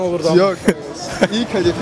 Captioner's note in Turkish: Gülüşme